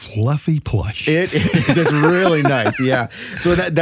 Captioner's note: laughing